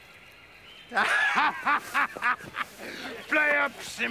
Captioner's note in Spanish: risas